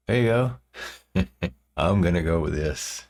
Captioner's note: laughing